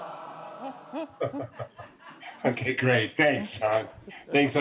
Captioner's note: laughing